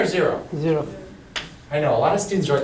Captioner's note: voiceover